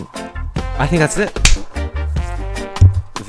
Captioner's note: clap